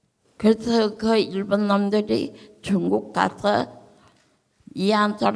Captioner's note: speaking in foreign language